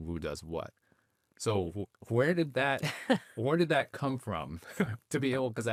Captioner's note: chuckling